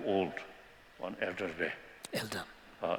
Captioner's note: non-english